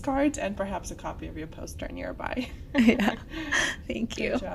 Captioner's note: laughs